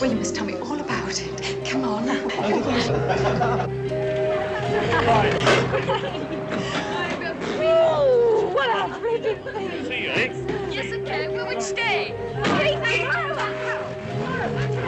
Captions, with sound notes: YOU MUST TELL ME ALL ABOUT IT! COME ON. [laughter and chatter]